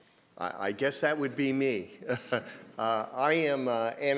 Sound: chuckles

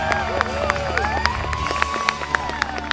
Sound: applause

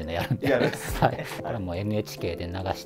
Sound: laughing

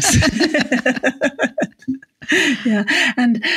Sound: laughing

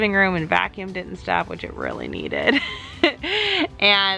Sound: laughs

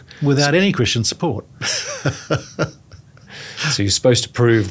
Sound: laughs

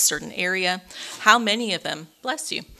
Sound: attendee sneezes

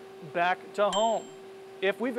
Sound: ding

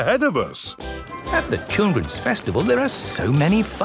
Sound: festival buzz and music

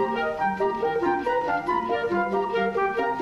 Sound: none

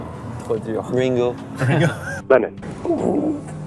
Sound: laughs

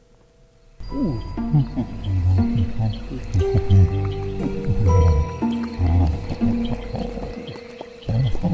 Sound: bin hand chuckles

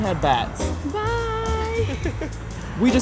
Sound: laughs

